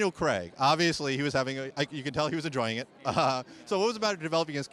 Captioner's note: chuckles